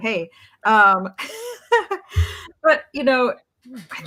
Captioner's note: laughs